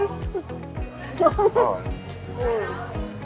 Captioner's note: chuckling; smooth upbeat music